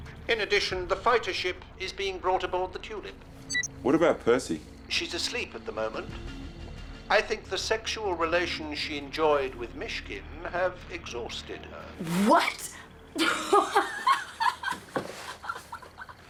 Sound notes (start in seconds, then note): 3.5 beeps; 13.0 laughing